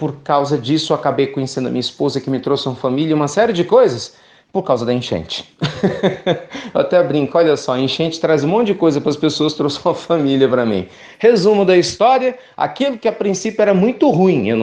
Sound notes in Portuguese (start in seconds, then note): 5.6 risos